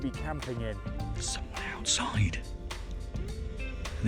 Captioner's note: whispers